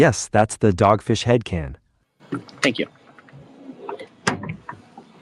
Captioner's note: can clicks